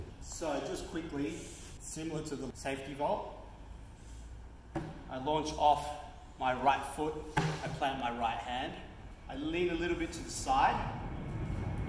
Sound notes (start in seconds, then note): 4.7 tap